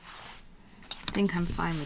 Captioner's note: clips rattling